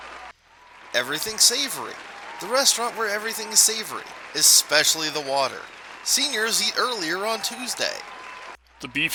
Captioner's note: applause restarts every scene change